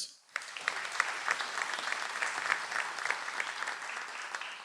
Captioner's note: audience applauds